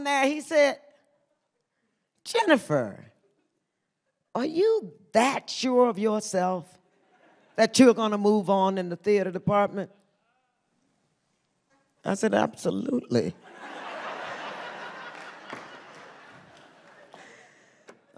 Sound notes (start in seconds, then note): 13.4 audience laughs